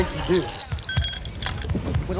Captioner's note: tinkling, gulp